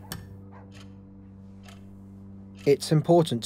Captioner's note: dog barking outside; clock ticking